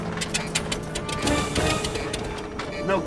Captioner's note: sputtering